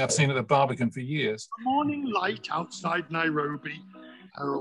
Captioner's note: another video clip starts playing in the background